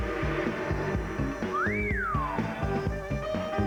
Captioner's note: whistles